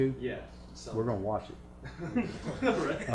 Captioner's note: laughter